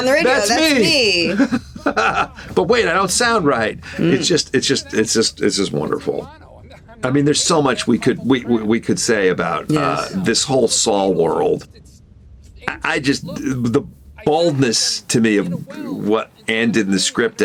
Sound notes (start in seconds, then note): 0.3 Gould laughs